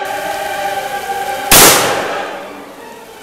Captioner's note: gun fires